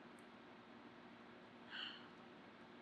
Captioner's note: sighs